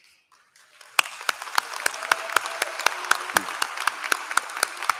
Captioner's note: applause